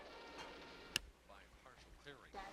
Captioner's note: man over TV